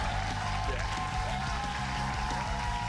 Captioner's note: cheers and applause